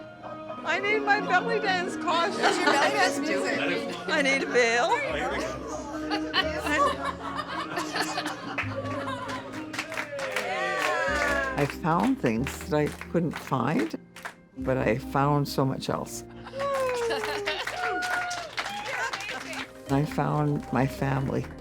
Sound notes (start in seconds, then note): 6.5 gentle music plays; 6.5 laughter; 9.8 cheering; 16.5 cheering